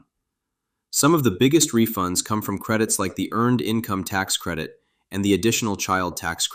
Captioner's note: thoughtful